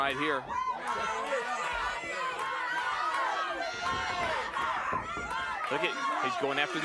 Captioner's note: applause